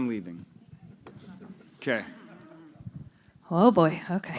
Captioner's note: laughter